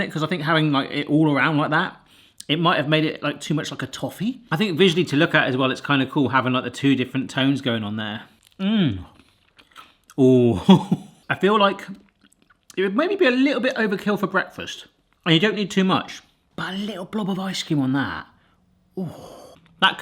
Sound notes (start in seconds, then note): 10.0 laughs